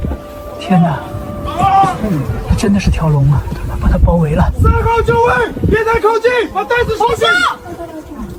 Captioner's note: Mandarin dialogue continues